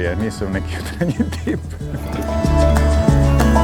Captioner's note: laughs